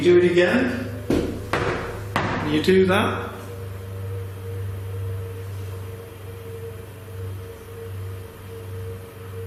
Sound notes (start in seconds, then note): 1.1 knocking